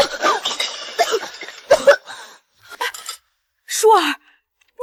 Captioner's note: cough cough cough